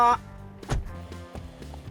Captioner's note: door thuds